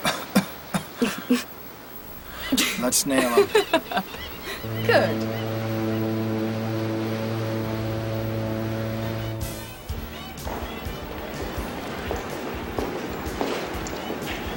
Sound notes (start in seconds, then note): 0.0 coughing; 2.2 laughing; 6.2 boat horn blowing; 9.9 upbeat pop music